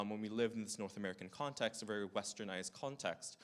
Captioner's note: none